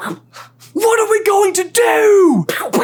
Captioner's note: accented